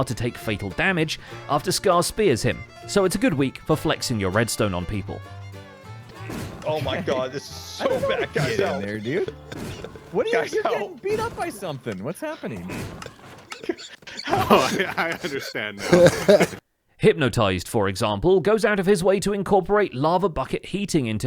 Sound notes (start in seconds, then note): 8.7 group laughs; 13.4 chuckles